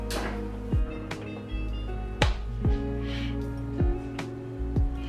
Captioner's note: oven beeps